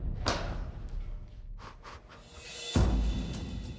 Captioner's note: chuckles